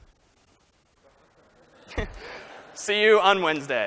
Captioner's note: laughter